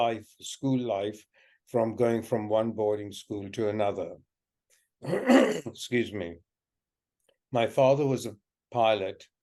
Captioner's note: coughs